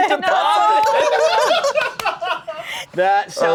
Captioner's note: everyone laughing